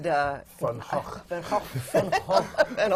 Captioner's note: laughter